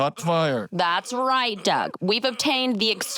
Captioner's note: alarm-like wail continues